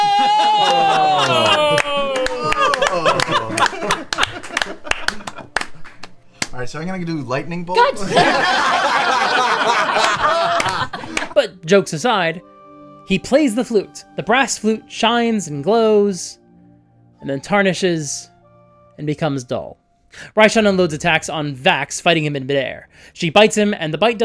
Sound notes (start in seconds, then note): 2.7 applause, laughing; 8.0 laughter